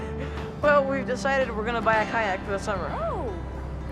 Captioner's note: laughs